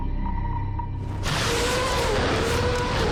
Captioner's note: gunfire